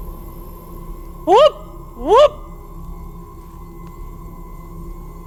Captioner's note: howls